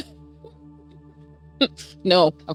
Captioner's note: laughs